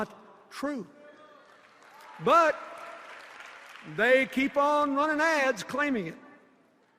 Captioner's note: applause